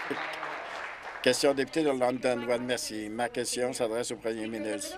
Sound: applause

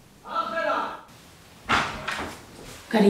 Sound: dad goes in and shouts

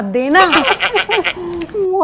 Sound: laughing

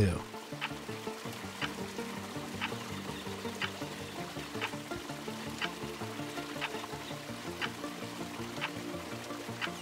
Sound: water trickles

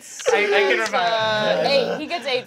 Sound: gasps

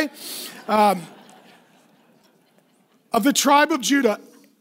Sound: laughing

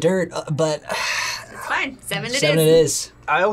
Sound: sighs

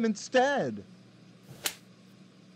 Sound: smack

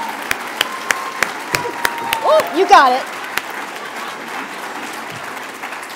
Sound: applause

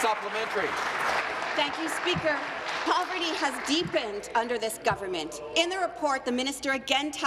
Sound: applause

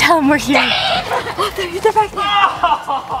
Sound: child screams

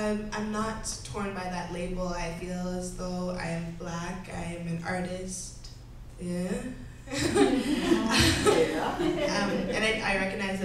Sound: laughs

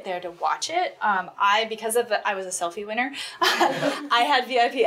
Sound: laughs

